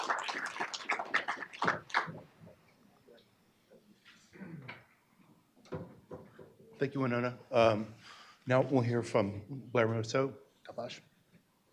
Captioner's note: applause